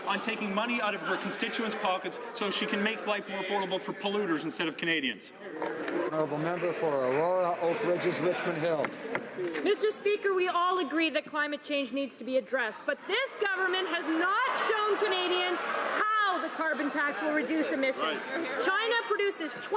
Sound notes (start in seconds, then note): none